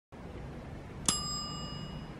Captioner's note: ding!